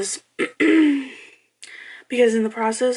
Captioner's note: clears throat